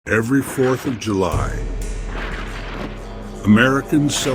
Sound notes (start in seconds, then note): 1.2 ominous; 1.3 coldly